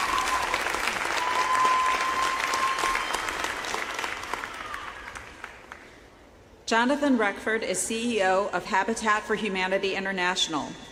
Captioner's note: applause